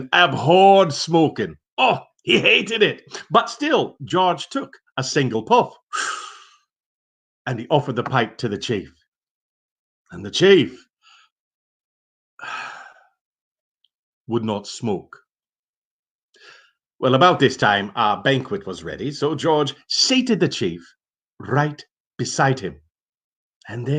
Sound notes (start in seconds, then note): 6.0 puffing; 12.4 sighing